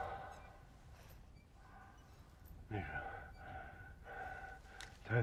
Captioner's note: heavy breathing